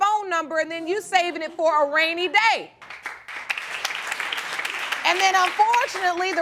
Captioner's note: applause